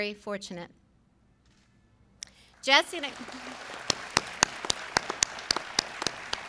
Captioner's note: applause